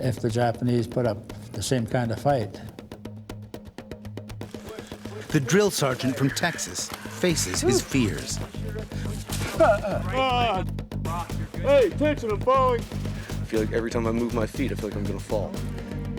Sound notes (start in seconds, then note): 5.5 voiceover